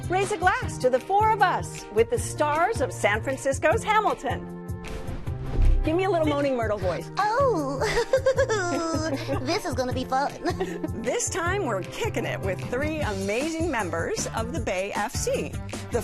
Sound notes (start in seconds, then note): 7.6 giggles